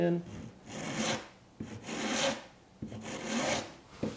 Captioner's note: file scraping